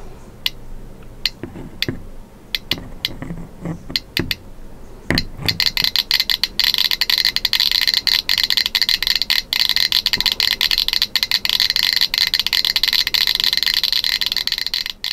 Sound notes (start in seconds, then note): 0.2 geiger counter clicks several times; 5.1 geiger counter clicking rapidly